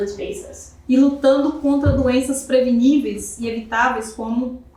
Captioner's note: speaking portuguese